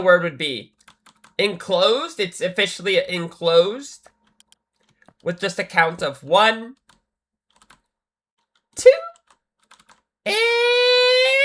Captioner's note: screaming